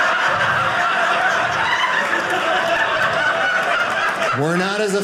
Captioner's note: audience laughing